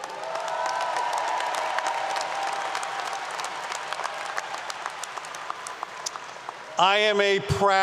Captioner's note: applause 👏 👏